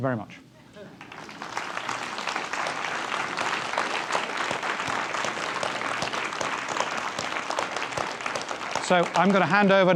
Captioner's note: applause